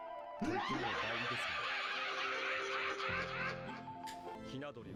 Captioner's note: Killer7 laugh